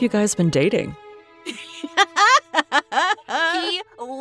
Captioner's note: laughs